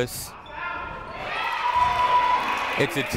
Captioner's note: people cheering in the crowd